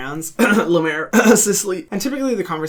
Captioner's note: clears throat